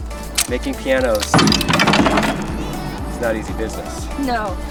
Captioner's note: wood banging